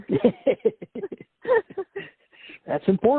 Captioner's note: laughs